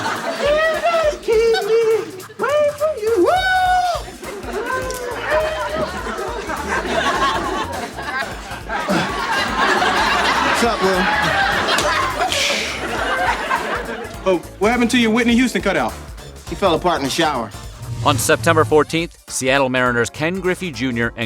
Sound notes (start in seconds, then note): 4.2 laughter